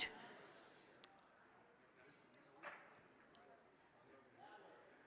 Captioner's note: crowd chattering